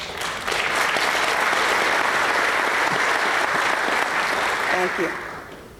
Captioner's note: applause